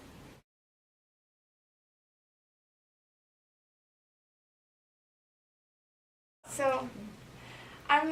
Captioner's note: blank Audio